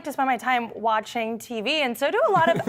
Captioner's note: laughter